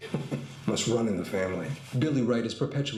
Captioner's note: ironic laugh